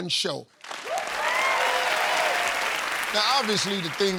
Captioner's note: cheers and applause